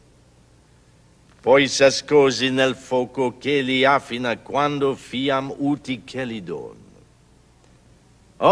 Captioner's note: speaking italian